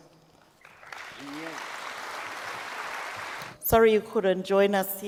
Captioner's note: audience applauds